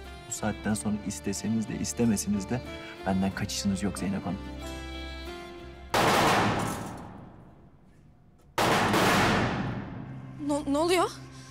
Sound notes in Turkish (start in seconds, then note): 5.6 Silah sesleri